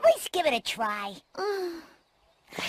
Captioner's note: sighs